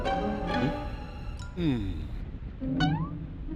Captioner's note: sighs